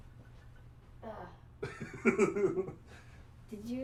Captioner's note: laughter